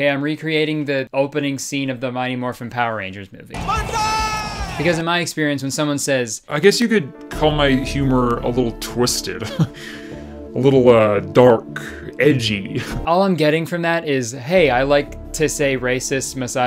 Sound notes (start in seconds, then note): 3.6 man screams; 9.4 chuckles